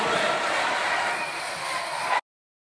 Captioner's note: applause